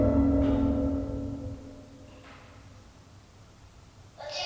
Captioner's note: distant bumps